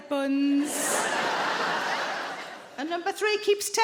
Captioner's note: audience laughing